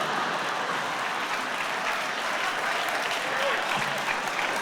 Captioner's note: audience laughter and applause